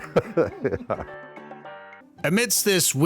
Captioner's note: chuckling